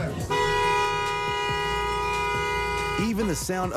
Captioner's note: horn honks